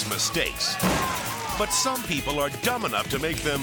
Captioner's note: energetic rock music; bike crashes